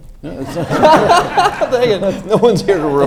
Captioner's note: audience laughs